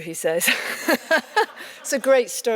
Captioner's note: laughs